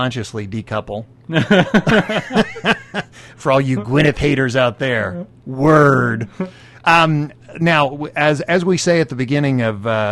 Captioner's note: both Laugh